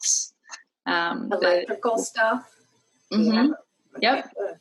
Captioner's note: faintly speaking